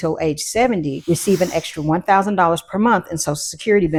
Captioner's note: air hissing